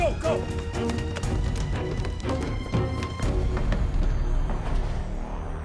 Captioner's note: running footsteps